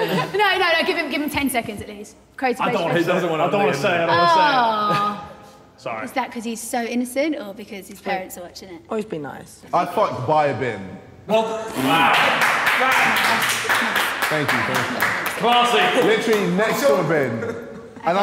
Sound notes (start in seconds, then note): 11.8 Sidemen applauding